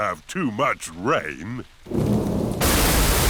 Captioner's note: thunder rumbling